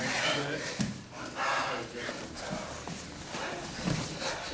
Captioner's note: heavy breathing